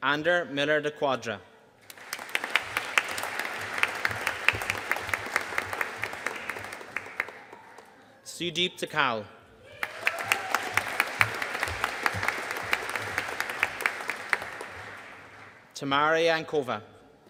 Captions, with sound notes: Ander Millar De Quadra. (AUDIENCE APPLAUDING) Sudeep Dhakal. (AUDIENCE CHEERING AND APPLAUDING) Tamara Jankova.